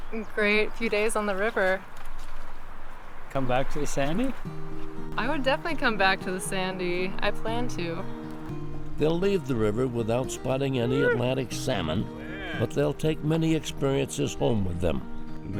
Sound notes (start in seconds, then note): 0.0 water ripples faintly; 2.0 water ripples faintly